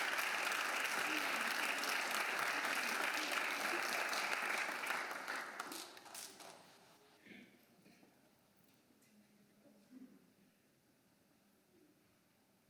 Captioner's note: applause